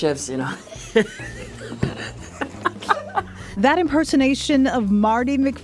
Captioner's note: laughing